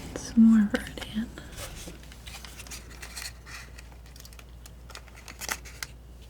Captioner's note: scratching